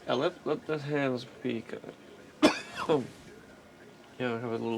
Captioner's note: cqughs